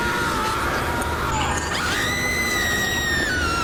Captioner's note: gritos